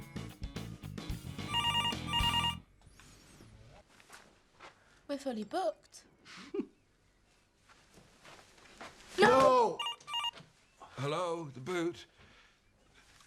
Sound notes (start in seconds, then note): 1.4 phone ringing; 6.4 Loz chuckles; 9.8 phone ringing